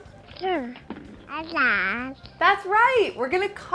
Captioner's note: baby babbling